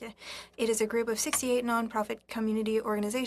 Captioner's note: speaking French